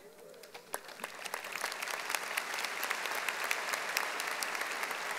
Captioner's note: audience applauding